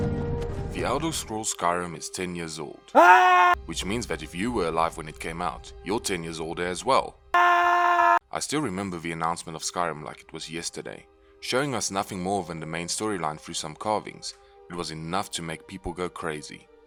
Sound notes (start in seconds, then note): 2.9 screams; 7.3 screams